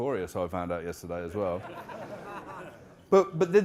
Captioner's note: audience laughing